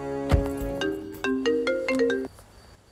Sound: door closes

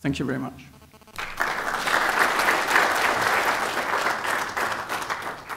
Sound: applause

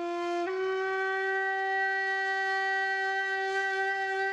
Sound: horn blowing

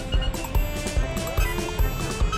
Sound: crowd noise

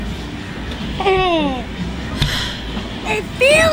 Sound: sighing

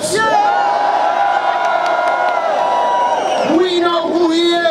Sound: cheering

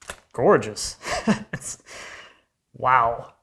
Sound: laughs

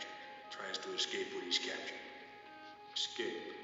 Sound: echoing

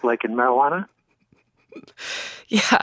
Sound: laughs

